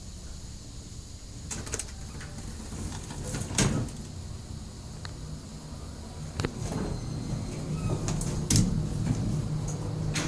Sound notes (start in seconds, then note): 6.4 doors closing behind me